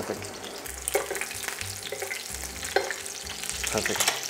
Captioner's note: sizzling sound